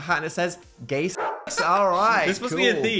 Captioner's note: dog barking